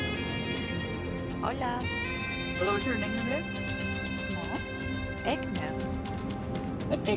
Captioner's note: caller and Lawson conversing in foreign language